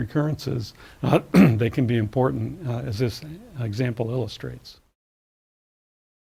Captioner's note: cough